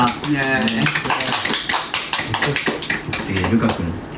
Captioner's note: clapping